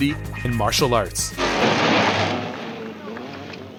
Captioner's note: motorcycle engine